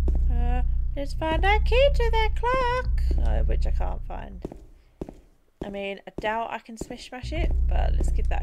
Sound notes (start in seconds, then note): 0.6 putting on a funny voice